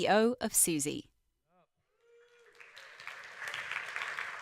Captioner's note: applause